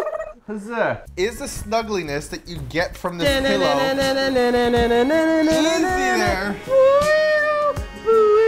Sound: imitates sexy music

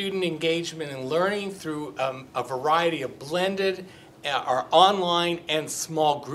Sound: none

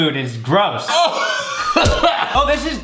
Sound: gagging

